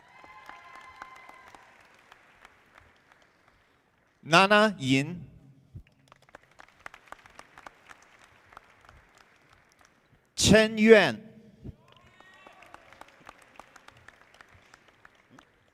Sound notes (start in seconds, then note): 0.0 audience applauding; 5.8 audience clapping; 11.8 audience applauding